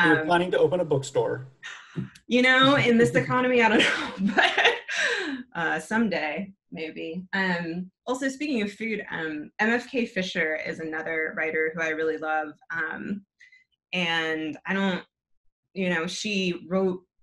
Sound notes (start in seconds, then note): 2.6 laughs